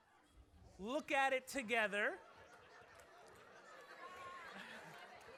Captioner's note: laughter